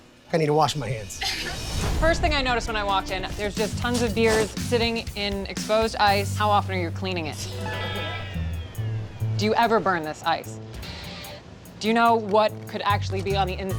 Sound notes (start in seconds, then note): 1.7 laughs; 7.6 uncomfortable laughter